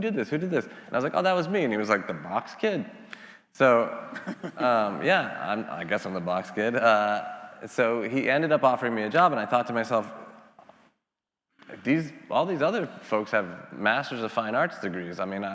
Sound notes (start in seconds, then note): 4.1 laughing